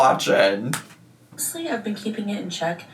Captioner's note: keyboard clicking